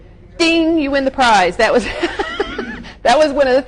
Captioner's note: gently laughs